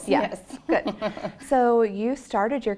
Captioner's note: laugh